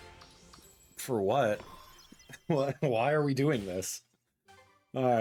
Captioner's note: laughs